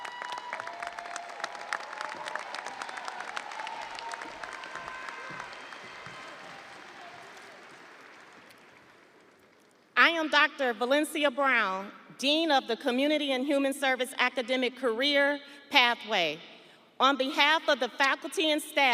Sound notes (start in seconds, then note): 1.5 audience applauding; 1.5 audience cheering